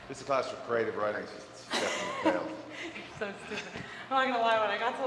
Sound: laugh

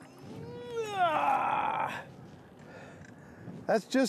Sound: grunts

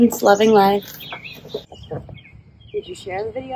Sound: birds chirping

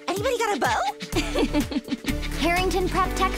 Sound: George laughs

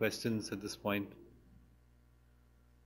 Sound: pause

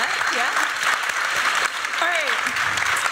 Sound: applause, cheering

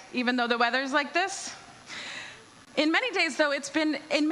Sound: none

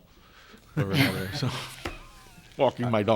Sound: members laughing

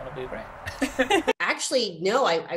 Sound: laughs

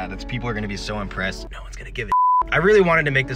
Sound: stage whisper

